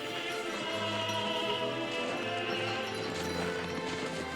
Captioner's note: bells clanging